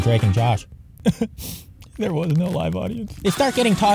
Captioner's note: sob